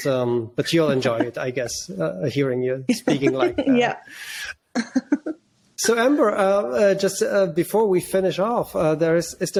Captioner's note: laughs